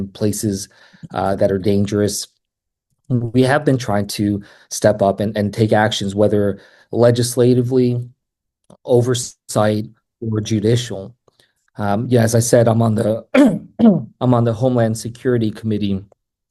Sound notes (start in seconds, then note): 13.3 coughs